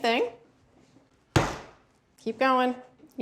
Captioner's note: pounds once